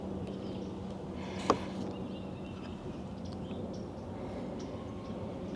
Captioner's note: birds chirping